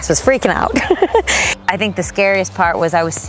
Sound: laughing

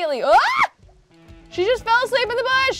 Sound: Kelsey squeals

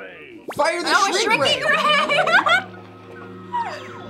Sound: laughs

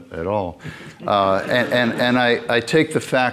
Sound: audience laughing

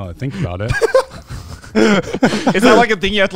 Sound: everyone laughs

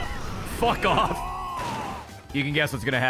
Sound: laughs

